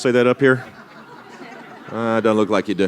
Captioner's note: laughter